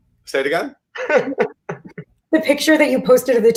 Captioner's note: Gideon laughs